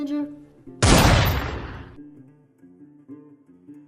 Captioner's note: gun shot